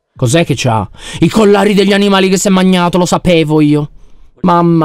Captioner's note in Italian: sussulta